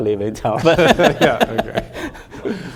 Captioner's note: laughing